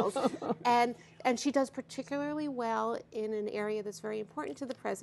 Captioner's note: laughter